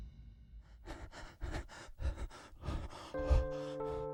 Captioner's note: heavy breathing